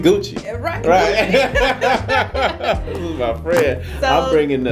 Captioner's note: laughing